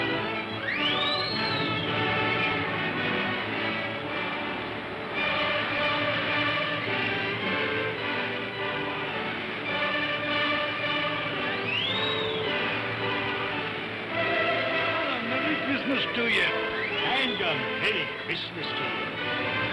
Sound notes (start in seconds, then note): 3.3 music plays; 3.3 sounds of ocean; 14.0 music plays; 19.5 music plays; 19.5 waves crashing